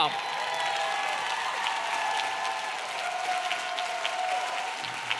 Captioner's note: audience clapping and cheering